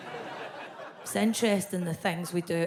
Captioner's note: audience laughs